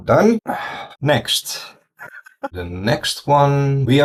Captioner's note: laughs